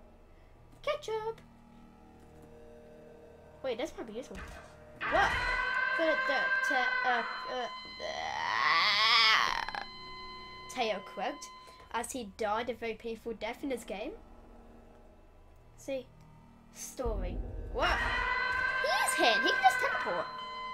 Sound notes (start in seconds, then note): 6.0 stuttering; 8.0 loudly croaking